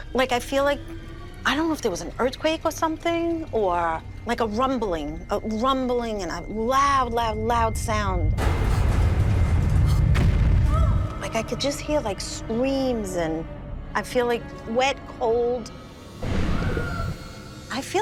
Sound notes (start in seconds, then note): 9.9 woman yelps; 16.4 screaming